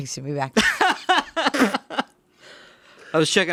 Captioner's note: laughing